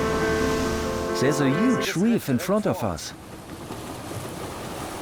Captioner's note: in German